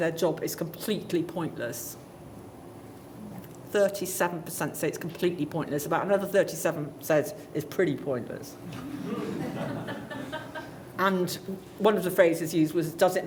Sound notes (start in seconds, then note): 8.8 light laughter